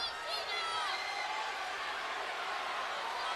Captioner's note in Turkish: Alkış